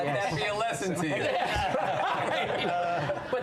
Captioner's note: laughter